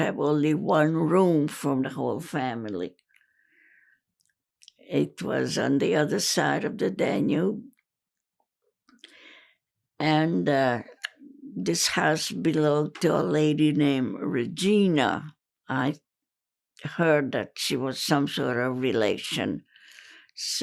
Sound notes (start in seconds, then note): none